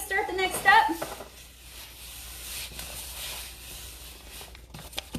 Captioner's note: tissue rustling